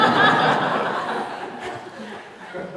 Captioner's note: laughter